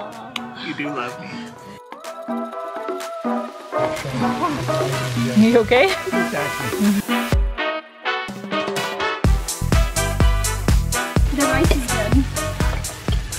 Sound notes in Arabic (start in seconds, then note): 3.1 طعام أزيز; 3.2 موسيقى البوق